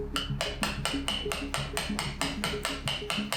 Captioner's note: tapping